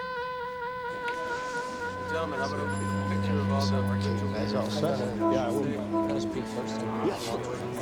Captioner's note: people chatter indistinctly; elevator dings